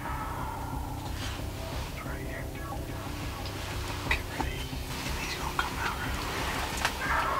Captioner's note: whispering